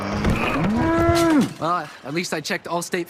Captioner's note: bull mooing